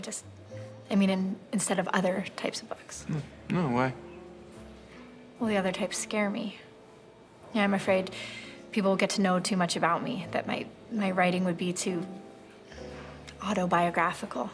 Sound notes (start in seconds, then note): none